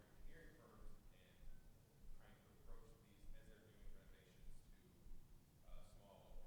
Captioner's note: faintly speaking